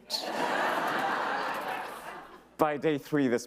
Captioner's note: audience laughs